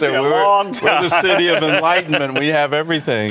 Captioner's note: laughter